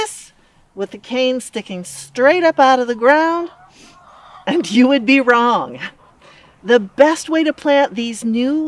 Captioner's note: laugh